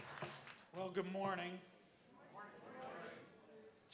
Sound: applause

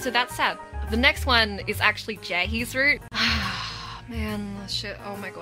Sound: heavy sighing

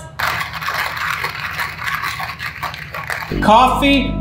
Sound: coffee grinder churning

